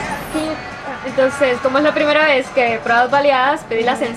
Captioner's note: in Spanish